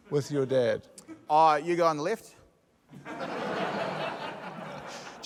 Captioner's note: laughter